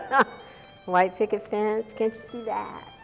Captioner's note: ^laughter^